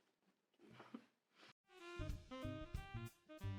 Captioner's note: laughs